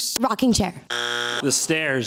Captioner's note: bzzzzt